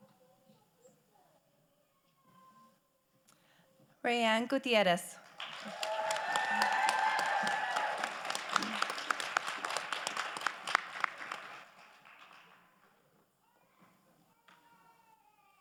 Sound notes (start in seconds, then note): 5.2 crowd applauding